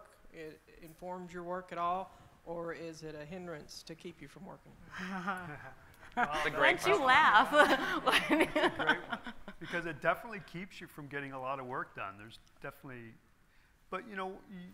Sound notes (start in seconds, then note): 5.0 panelists laughing; 7.4 laughing